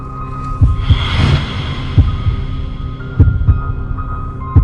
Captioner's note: heartbeat thumping; eerie music